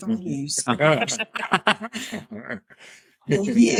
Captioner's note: laughing